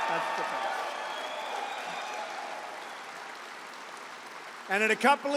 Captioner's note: applause